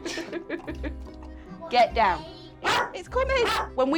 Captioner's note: Milo barks